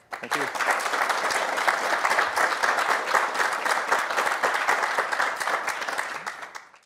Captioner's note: applause